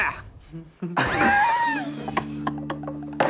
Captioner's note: laughing